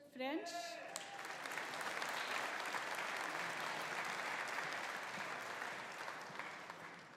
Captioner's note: audience applauding; audience cheering